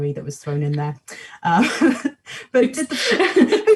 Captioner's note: both laugh